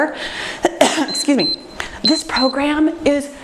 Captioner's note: timer beeps